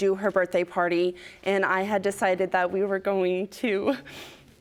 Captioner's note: voice breaking